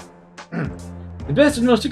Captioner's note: clears throat